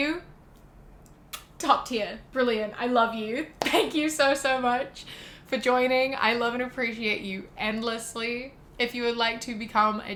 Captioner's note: kiss